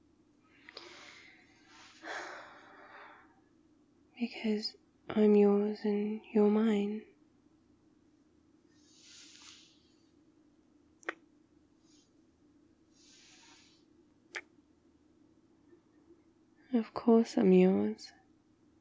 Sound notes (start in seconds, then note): 0.6 comfy sighs; 9.0 kiss; 14.3 kiss